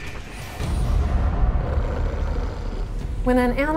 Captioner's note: wolf growls